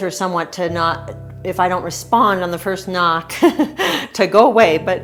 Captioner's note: laughing